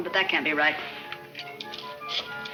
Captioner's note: camera clicks